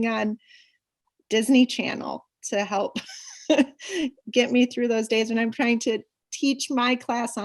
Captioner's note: laughs